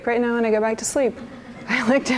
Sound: laughter

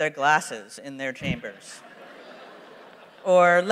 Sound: laughter

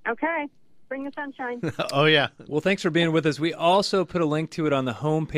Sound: laughs

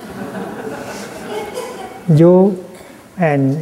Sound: laughter

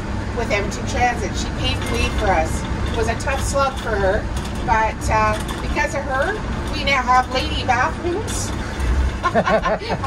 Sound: laughter

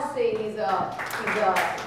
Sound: audience clapping

